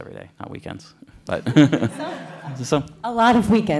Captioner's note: laughter